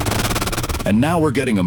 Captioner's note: SFX: confused droid noises